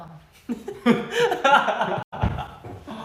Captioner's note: hahahah